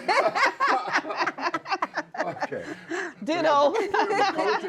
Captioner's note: laughter